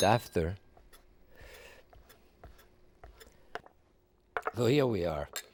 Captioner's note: knife scraping